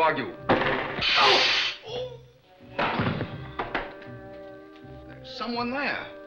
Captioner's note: gun firing; hissing; butler yelping